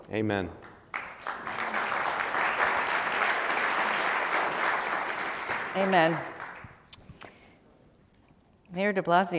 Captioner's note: applause